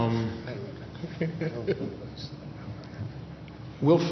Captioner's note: laughs